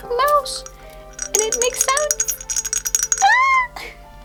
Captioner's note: rattling sounds